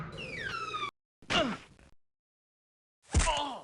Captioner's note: bat bludgeons; inmate groaning; weapon bashing